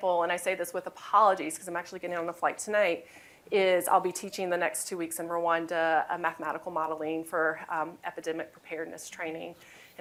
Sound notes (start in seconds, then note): none